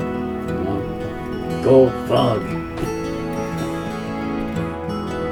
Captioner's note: chuckling